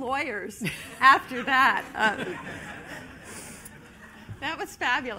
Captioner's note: laughter